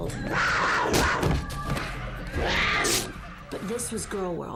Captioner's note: animals snarling